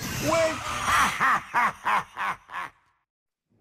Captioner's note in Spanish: risas